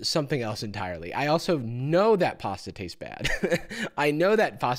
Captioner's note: chuckles